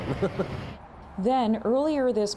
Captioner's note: laughter